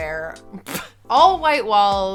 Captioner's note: laughing